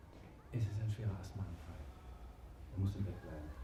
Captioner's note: doctor's voice, muffled